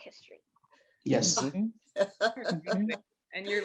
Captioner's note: chuckling